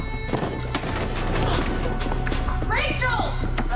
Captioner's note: elevator dings